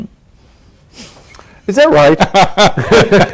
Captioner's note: laughter